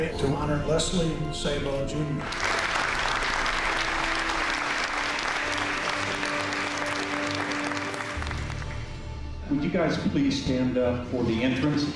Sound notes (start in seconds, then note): 2.2 applause